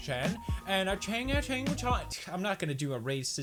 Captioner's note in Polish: bełkocze po "chińsku